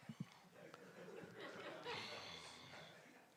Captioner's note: laughter